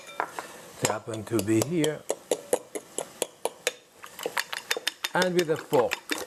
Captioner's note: fork clinking